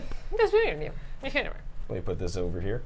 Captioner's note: speaking in gibberish